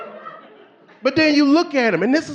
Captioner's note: audience laughing